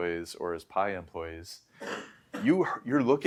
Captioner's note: coughing